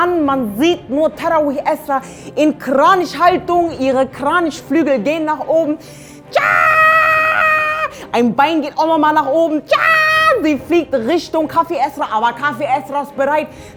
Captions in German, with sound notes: man sieht nur die Tarawih-Esra in Kranichhaltung. Ihre Kranichflügel gehen nach oben... *Brüllt Kampfschrei* Ein Bein geht nach oben. *Brüllt Kampfschrei* Sie fliegt in Richtung Kaffee-Esra, aber die ist bereit.